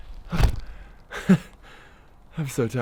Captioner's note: shuffles feet and grunts; falls over onto truck and laughs